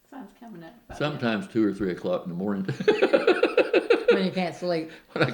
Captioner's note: laughs